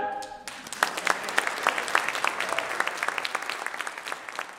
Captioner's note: crowd applauds